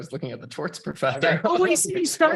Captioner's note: laughing